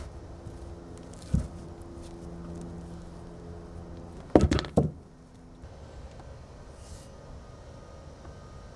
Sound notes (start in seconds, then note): 4.2 wood clanking